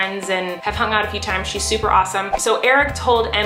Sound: air whooshes

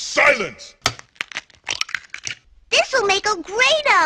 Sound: cracking

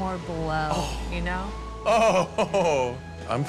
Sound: laughing

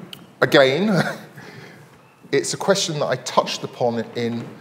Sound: laughing

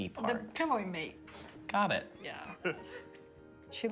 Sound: laughter

